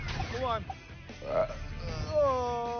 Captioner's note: burps